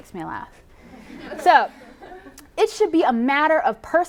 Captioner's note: laughter